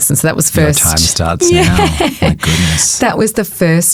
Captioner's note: chuckling